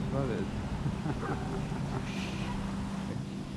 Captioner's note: laughing